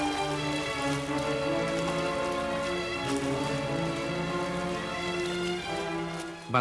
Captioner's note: stirring symphonic music; water babbling